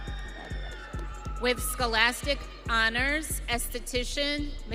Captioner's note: audience cheering